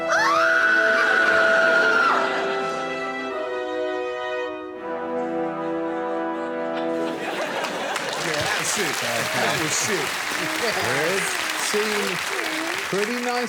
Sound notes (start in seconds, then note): 0.0 screaming; 9.3 applause; 9.3 laughter